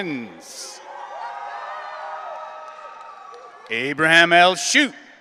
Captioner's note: audience cheering